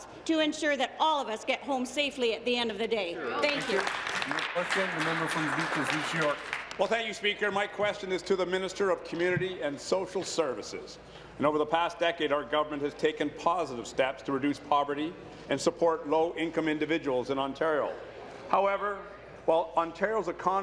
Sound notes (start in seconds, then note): 7.5 applause